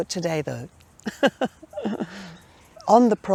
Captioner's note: laughing